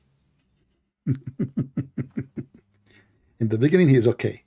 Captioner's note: Ketawa